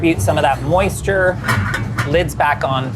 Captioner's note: lid clangs